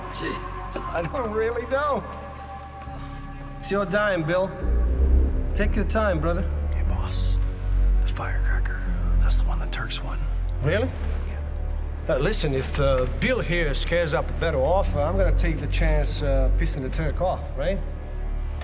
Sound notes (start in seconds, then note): none